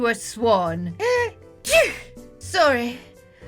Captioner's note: sneezes